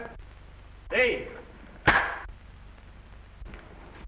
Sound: sync slate clacks

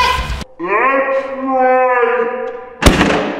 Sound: slow-mo voice

